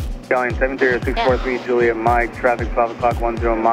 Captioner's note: murmurs